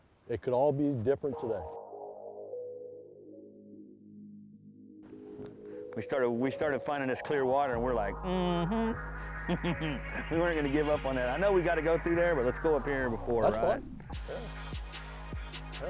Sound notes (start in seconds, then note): 2.0 dramatic ambient music; 9.4 laughs